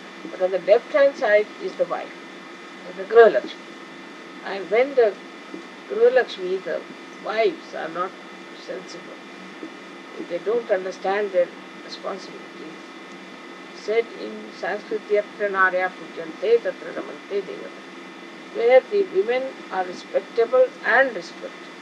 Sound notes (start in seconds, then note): 16.0 sanskrit words